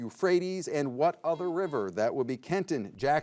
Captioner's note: buzzer beeps